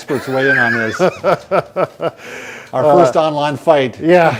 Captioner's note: laughs